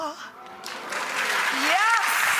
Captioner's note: applause